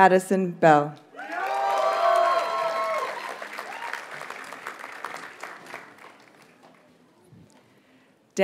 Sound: audience cheers and applauds

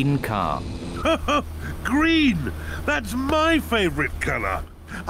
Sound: laughs

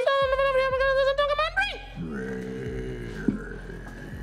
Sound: speaking gibberish

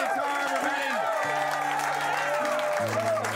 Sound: cheers and applause

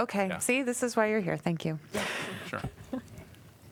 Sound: laughter

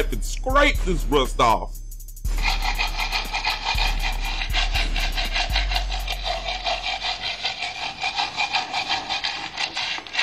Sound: loud scraping sound like nails on chalkboard

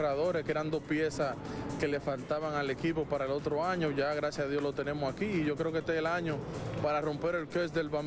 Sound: speaking spanish

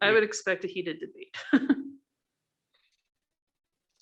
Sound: laughs

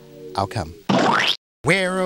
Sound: splat.mp3

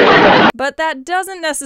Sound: sitcom laugh track

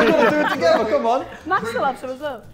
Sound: Sidemen laughing

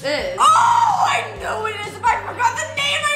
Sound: yells

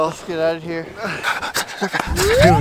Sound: intense shivering

